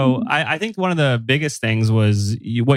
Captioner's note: laughs